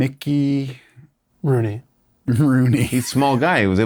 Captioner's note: laughs